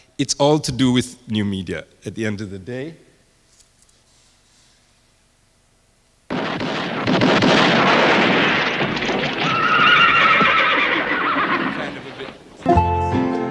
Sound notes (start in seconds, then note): 6.3 guns firing; 9.4 horse neighing